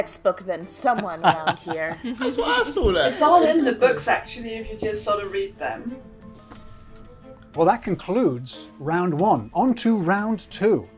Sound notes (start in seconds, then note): 1.0 laughing; 6.4 bouncy upbeat music